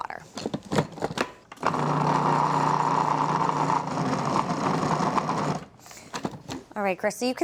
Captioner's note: churning